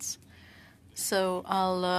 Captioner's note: speaking French